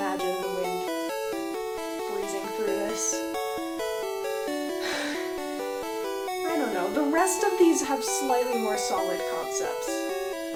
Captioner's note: sigh